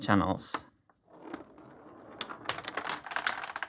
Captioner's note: marbles rolling